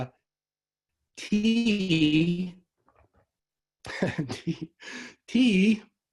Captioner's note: laughs